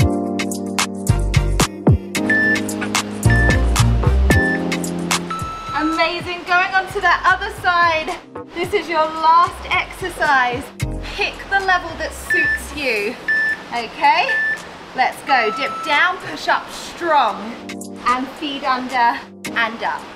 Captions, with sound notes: (timer beeping) (waves whooshing) Amazing. Going onto that other side. This is your last exercise. Pick the level that suits you. Okay, let's go. Dip down, push up strong, and feed under and up.